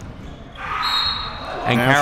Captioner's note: whistle